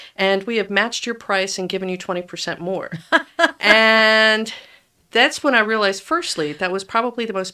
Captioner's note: laughs